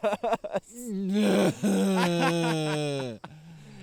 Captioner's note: Keith groaning